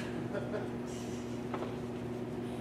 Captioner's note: laughter